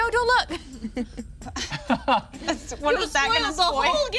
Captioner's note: group laughing